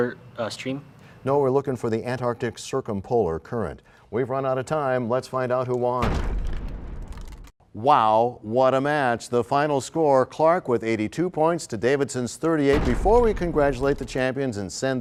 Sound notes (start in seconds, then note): 8.2 crashing sound